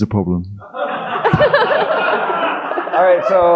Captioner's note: audience laughing